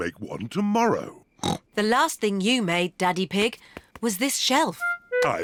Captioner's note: snorts